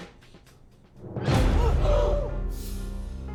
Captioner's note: tense music; gasping